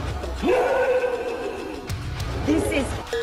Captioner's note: screams